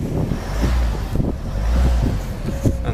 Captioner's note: engine Noises